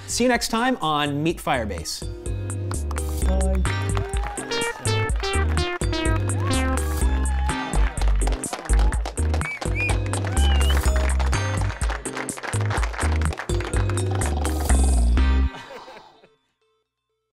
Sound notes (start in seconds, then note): 7.0 applause; 14.0 snores